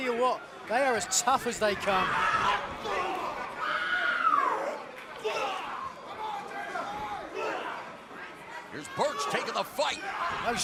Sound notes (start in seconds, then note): 2.2 crowd chatter